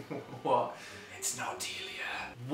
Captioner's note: whispers